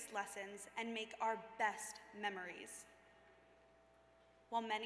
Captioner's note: none